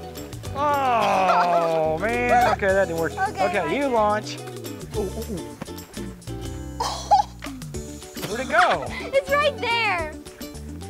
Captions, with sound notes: Ooh, man! (laughs) - Okay, my turn. - Okay, you launch. (exclaims) Where'd it go? - It's right there.